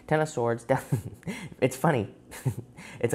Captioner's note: chuckles